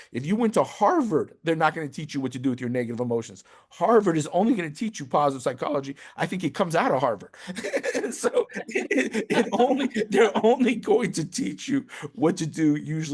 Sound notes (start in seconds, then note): 7.4 chuckles